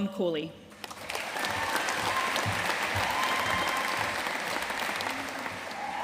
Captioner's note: audience cheering and applauding